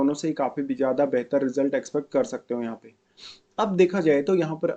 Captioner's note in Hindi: नाक से की जाने वाली आवाज़